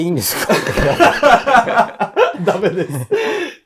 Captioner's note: laughing